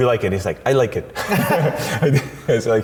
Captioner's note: laughs